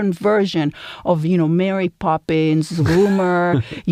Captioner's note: laugh